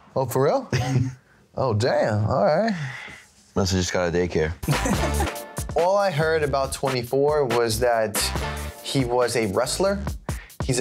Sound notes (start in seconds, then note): 1.3 laughing